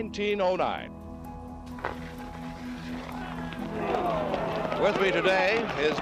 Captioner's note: crowd cheers and applauds